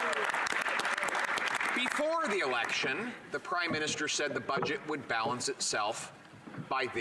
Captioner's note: some Applause